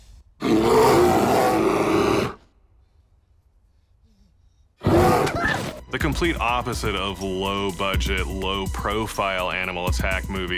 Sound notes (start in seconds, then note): 0.4 bear roars; 4.8 bear roars; 4.8 panicked yelp